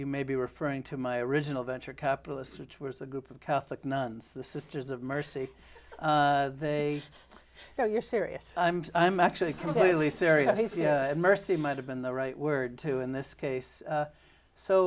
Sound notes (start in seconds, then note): 5.7 laughs